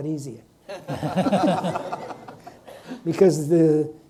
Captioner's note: audience laughs